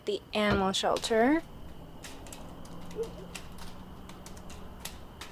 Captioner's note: wind chimes